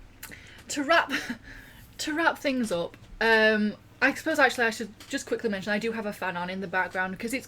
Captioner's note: laughs